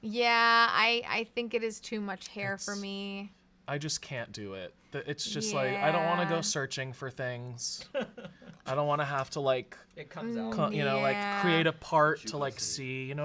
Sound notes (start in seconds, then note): 7.9 off-camera laughing